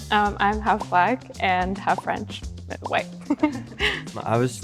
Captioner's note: chuckles